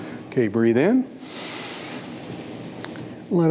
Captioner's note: inhales